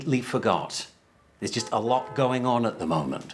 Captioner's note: horn honking